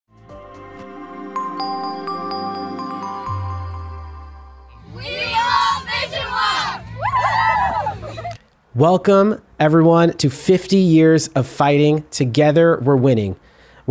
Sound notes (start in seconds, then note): 0.1 soft music; 7.1 group cheering